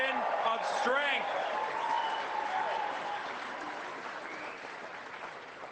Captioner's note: cheering, applause